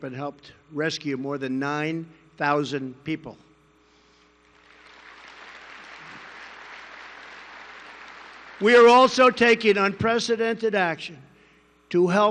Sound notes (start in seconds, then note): 4.4 applause